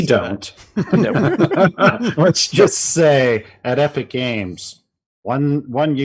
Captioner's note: laughs